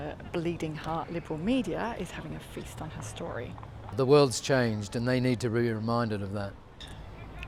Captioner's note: none